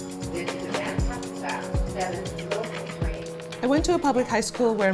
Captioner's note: upbeat music; people faintly talking